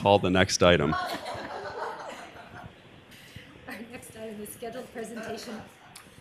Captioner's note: laughter